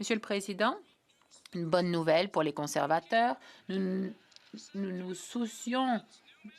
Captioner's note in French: voix de l'interprète